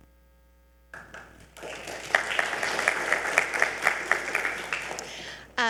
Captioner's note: audience applauds